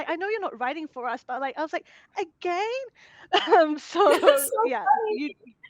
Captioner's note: laughing